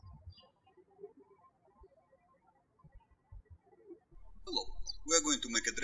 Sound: birds chirping

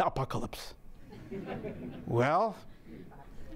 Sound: audience laughing

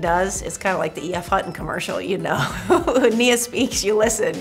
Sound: chuckles

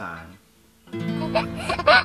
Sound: laughs

